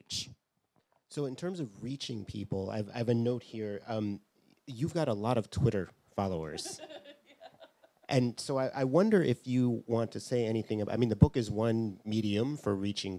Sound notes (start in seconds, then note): 6.6 laughs